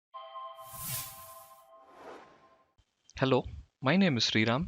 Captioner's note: chime